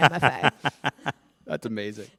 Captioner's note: laughter